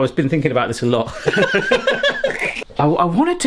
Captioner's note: both laughing